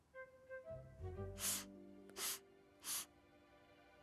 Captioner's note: Cory sniffling